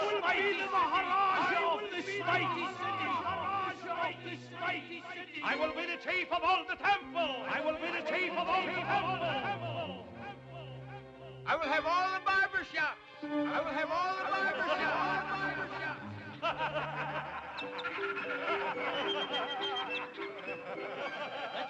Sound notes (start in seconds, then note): 0.1 voice echoes; 7.7 voice echoes; 13.5 voice echoes; 16.3 men cackle